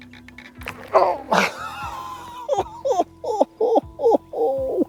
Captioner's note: laughs